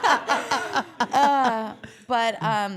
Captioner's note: all laughing